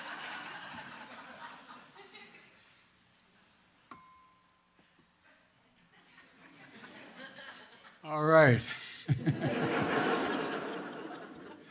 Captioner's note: laughter